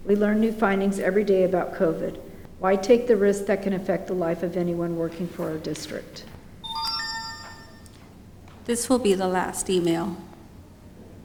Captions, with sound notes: We learn new findings every day about COVID. Why take the risks that can affect the life of anyone working for our district? (beep sound) This will be the last email.